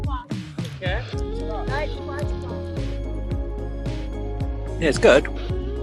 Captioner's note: indistinct background chattering